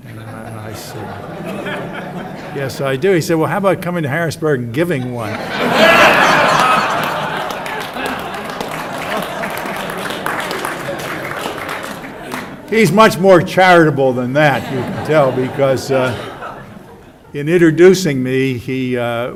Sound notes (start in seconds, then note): 5.9 audience: Claps, Laughs